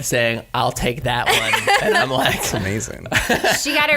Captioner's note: laughter